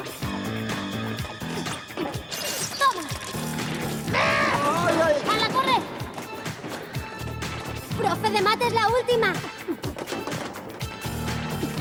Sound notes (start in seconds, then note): 5.4 crashing; 7.6 shouting